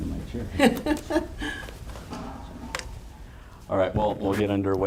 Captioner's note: laughter